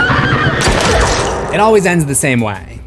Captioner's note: screams